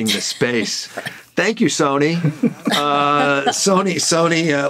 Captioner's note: all chuckling